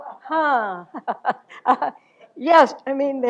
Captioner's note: chuckles